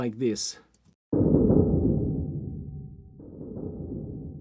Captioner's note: big beating sounds